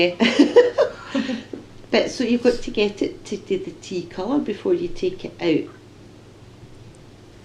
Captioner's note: laughs